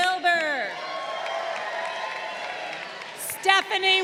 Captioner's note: crowd cheering